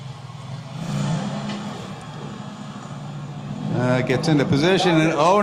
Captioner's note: vehicle revs